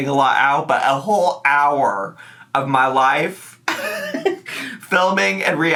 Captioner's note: laughs